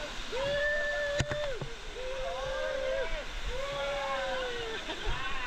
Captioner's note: wooo